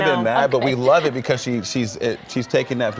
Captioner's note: laughter